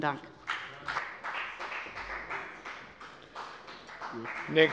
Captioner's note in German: Beifall bei der FDP